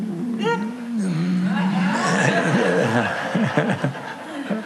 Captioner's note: laughter